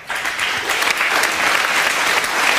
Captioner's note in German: Applaus